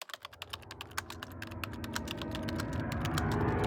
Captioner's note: typing